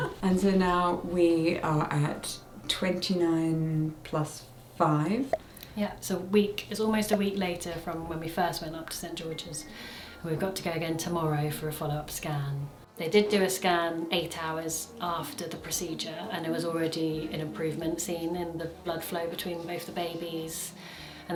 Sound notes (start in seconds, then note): 0.0 both laugh; 6.3 bubble pops